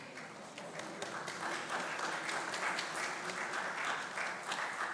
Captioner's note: audience applauding